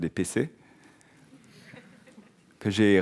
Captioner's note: audience laughing